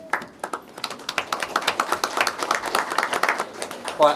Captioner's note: applause